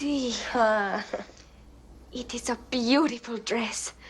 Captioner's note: chuckles